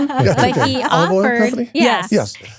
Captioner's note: laughing